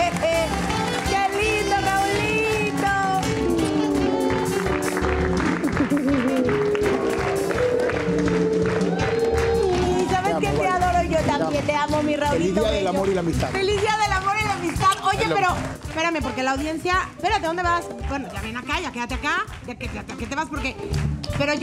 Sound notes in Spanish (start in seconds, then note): 5.4 Ríe; 7.1 Aplausos